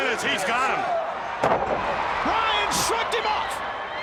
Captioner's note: crowd cheering